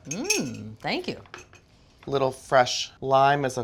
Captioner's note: none